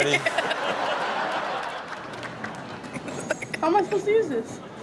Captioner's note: audience laughing